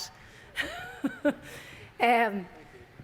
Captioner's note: person laughing